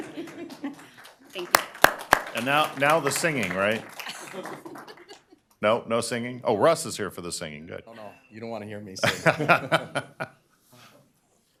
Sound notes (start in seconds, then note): 0.0 laughter; 4.0 laughter; 4.7 applause; 9.0 laughter